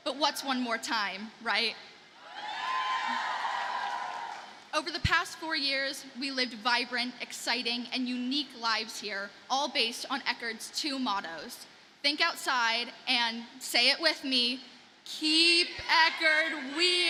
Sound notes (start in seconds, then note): 2.3 audience cheers and applauds